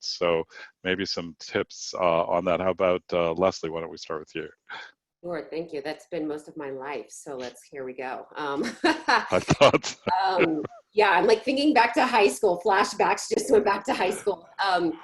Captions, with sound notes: So maybe some tips on that, how 'bout Leslie, why don't we start with you? - Sure, thank you. That's been most of my life, so let's, here we go. (laughs) - I thought so. (laughs) - Yeah, I'm thinking back to high school, flashbacks, just went back to high school.